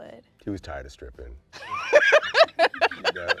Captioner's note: laughs